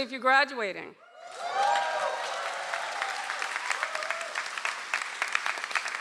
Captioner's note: audience applauds